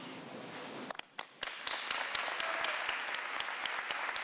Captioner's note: applause